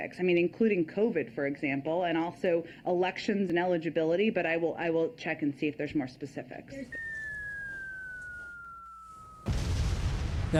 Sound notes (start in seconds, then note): 6.8 bomb whistling; 9.4 exploding